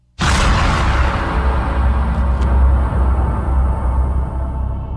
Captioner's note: lightning crackling